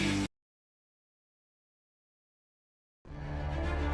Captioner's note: music stops; silence; suspenseful music